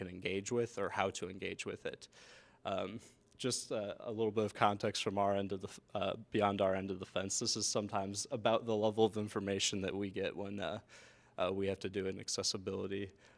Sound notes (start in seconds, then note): none